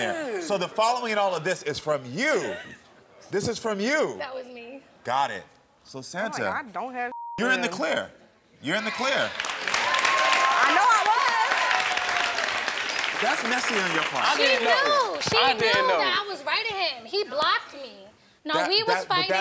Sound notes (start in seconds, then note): 7.1 beep; 8.8 audience applauds and cheers